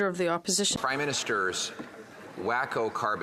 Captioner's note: speaking French